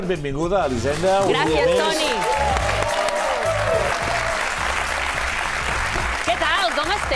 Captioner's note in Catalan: aplaudiments